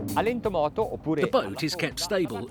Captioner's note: speaks in foreign language